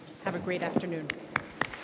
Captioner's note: applause